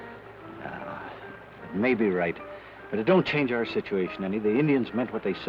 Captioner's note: sighs